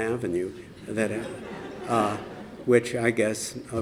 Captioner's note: laughter